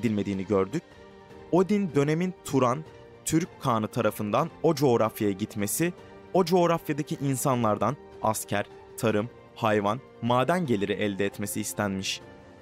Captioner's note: Turkish